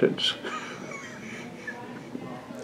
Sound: laughs

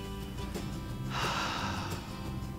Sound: sighs

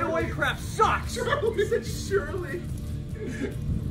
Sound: laugh

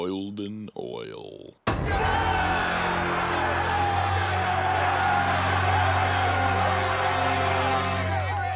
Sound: cheering

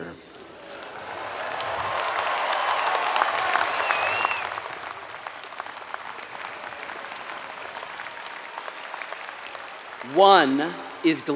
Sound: applause

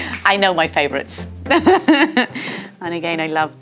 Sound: laughs

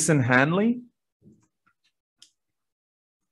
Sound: silence

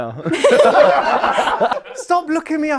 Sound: people laughing

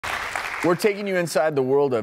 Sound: audience applause

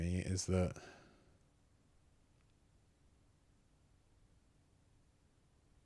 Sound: silence

